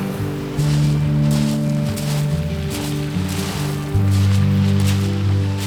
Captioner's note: man walking loudly